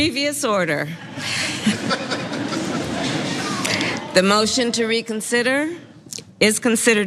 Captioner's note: laugh